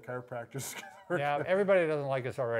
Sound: chuckles quietly

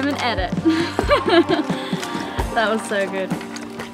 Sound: laughing

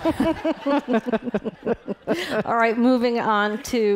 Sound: laughing

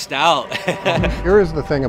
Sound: laughing

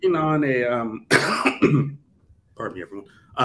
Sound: coughs

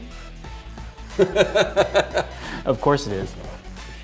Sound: laughs

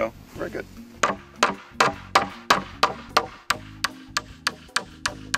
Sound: hammer pounding

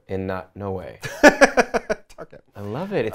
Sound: laughs

